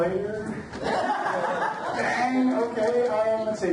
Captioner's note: audience laughs